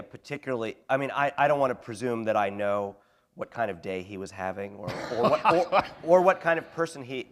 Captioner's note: laughter